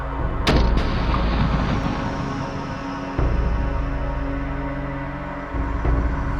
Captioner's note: suspenseful music; gunshot